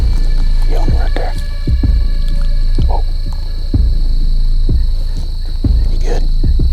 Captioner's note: whispering